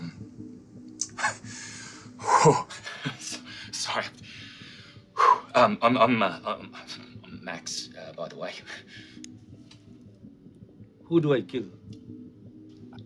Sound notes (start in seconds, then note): 0.6 chuckles; 1.1 exhales